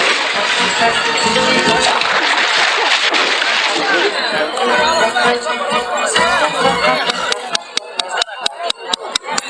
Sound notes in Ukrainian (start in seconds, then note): 1.9 оплески